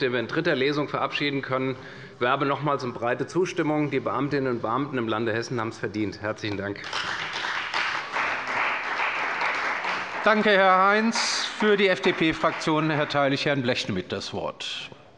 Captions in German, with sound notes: den wir in dritter Lesung verabschieden können. Ich werbe nochmals um eine breite Zustimmung. Die Beamtinnen und Beamten im Lande Hessen haben das verdient. - Herzlichen Dank. [Beifall bei der CDU] Danke, Herr Heinz. - Für die FDP-Fraktion erteile ich Herrn Blechschmidt das Wort.